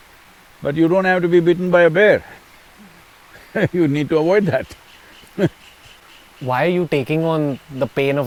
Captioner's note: laughs